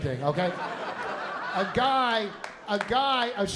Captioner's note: laughter